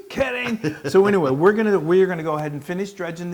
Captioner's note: laugh